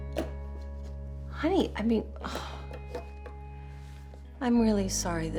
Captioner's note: sighs